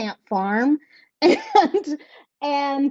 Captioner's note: laughing